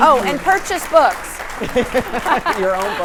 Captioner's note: all laughing